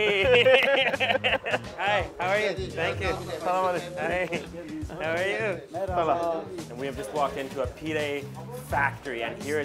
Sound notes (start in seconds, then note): 0.0 both laugh; 2.9 speaks in foreign language